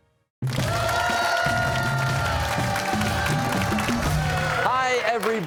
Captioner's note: cheers and applause